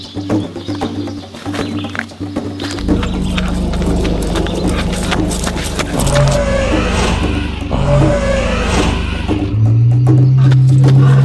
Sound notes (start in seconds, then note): 0.1 birds chirping; 2.7 dinosaur growling continues; 6.1 gravel crunching; 8.2 dinosaur growling continues